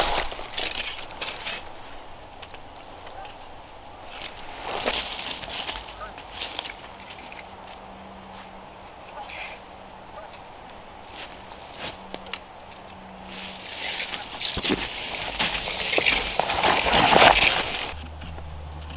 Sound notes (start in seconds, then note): 0.6 leaves rustle; 13.3 tape measure zipping